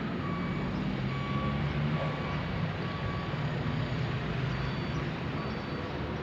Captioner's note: city Noise